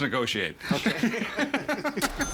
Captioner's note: laughing